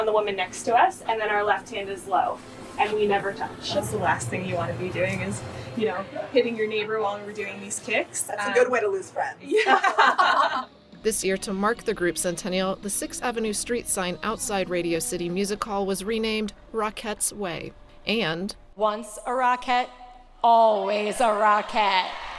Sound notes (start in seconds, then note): 9.4 laughter; 21.5 cheering